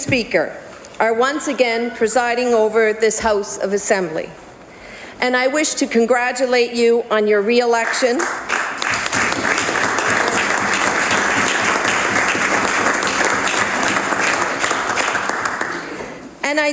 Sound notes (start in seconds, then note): 10.7 applause